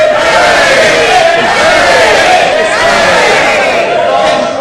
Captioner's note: cheers